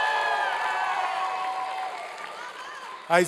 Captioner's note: applause and cheering